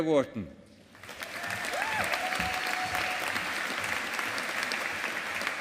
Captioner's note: audience applauding